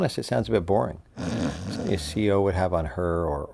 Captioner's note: snoring